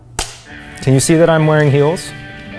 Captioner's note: clapperboard clap sound